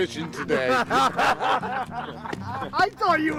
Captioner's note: laughing